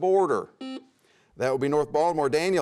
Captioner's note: buzzer sounds